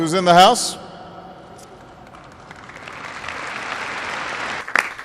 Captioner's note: applause